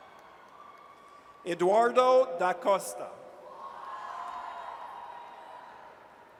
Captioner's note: audience cheers